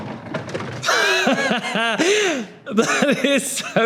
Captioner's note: Tan laughs